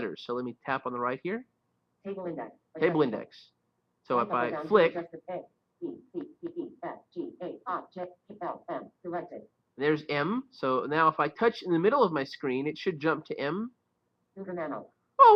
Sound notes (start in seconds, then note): 6.9 Siri talking